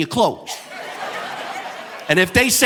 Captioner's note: audience laughing